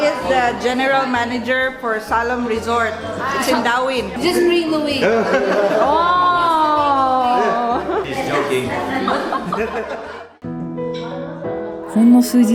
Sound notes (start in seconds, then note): 9.4 laughs